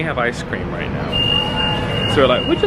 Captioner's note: vehicle intoning